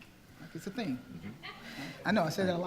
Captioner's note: attendees laughing